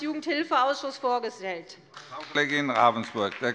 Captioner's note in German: Beifall bei der CDU und dem BÜNDNIS 90/DIE GRÜNEN